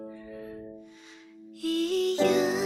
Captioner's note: breathes